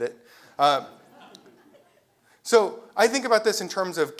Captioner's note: laugh